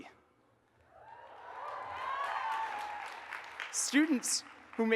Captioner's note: audience cheers and applauds